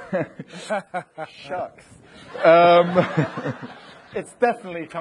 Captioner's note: audience laughing